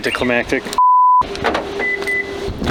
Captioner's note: beeping sound